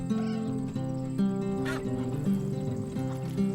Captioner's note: cat meowing; geese honking